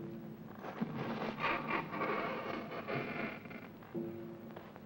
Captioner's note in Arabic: صرير الباب مفتوحا; موسيقى مشؤومة